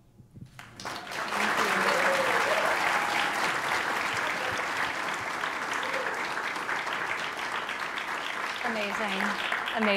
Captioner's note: applause